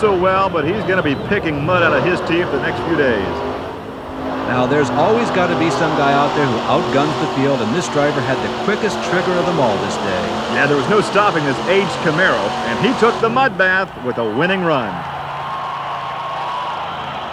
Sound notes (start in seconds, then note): 4.0 voiceover